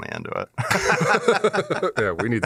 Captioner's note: laughter